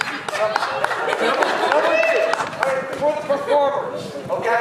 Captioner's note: audience laughs